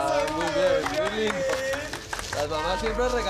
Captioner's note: applause